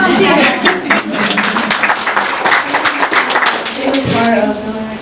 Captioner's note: applause